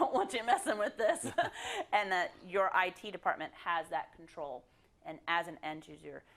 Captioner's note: laugh